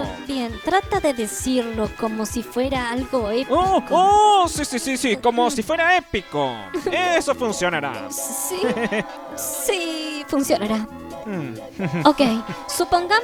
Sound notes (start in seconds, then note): 6.6 Gadget giggles; 8.3 Brenda giggles